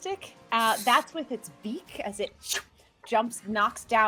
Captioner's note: imitates swoosh sound